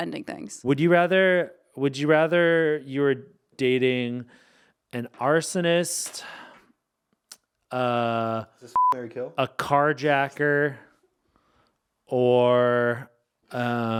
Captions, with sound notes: - Would you rather you were dating an arsonist... - Is this (beep), marry, kill? - A carjacker, or